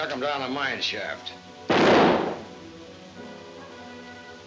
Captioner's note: gun firing